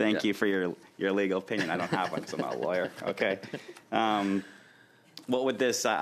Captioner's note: laughter